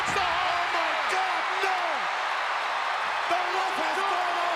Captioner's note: crowd cheers